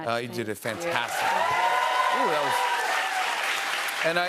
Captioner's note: cheers and applause